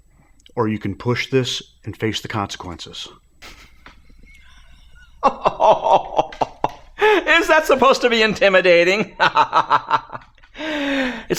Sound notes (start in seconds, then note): 3.4 laughing